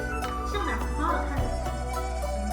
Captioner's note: speaks Chinese